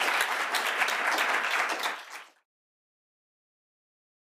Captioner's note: applause